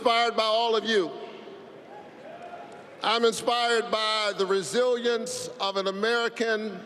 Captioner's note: applause